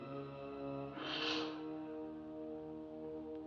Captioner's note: ominous music; blows; ominous music